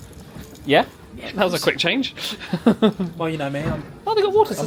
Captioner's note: chuckles